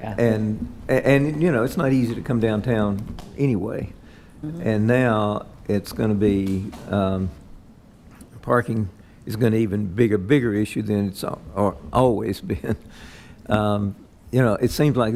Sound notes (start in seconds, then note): 12.9 chuckles